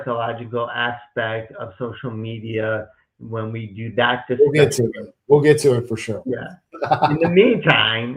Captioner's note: laughs